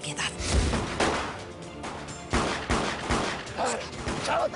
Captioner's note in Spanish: Disparos